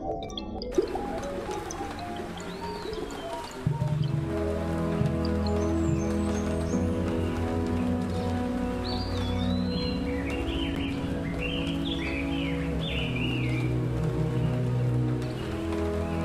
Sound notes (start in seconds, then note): 9.7 birds chirping